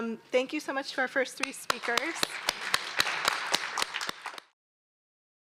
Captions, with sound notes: Thank you so much to our first three speakers. [APPLAUSE]